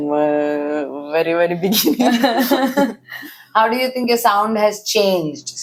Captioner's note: laughs